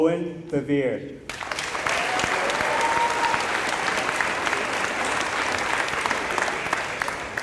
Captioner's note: applause